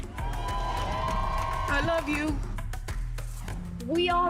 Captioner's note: cheering